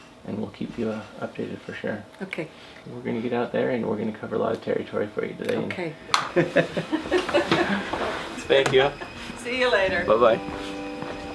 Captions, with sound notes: And we'll keep you updated for sure. - Okay. - We're gonna get out there and we're gonna cover a lot of territory for you today. - Okay. (laughing) - Thank you. - See you later. - Bye-bye.